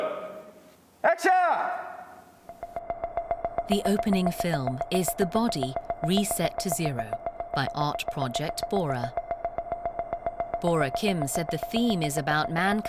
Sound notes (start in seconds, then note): 3.6 voiceover